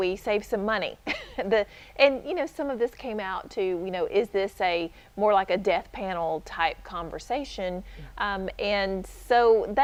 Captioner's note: chuckle